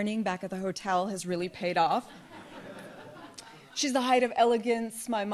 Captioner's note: audience laughs